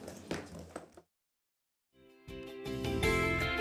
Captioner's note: sounding gavel